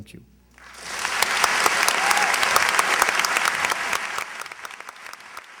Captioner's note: applause